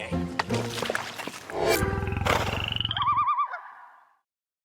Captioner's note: animal growling, bird hooting